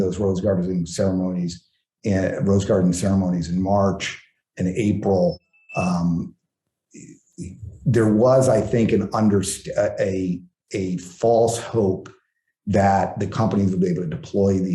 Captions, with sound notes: those rose gardens in ceremonies, rose garden ceremonies in March and April, (phone ringing) there was I think an- a false hope that the company would be able to deploy